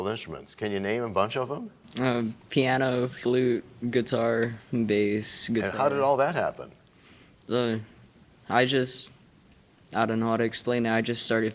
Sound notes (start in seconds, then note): none